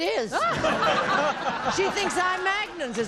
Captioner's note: laughter